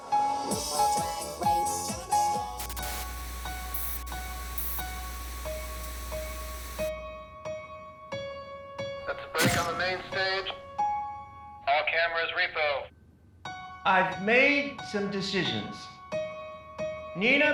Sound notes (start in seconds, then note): 0.0 theme music; 2.3 static